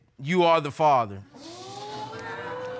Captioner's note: audience exclaiming